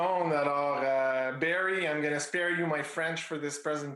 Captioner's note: speaking in Foreign Language